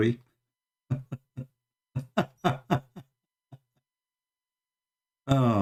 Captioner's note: Ketawa